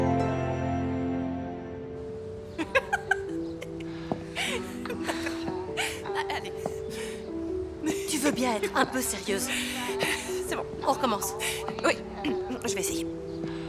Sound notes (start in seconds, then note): 2.5 laughing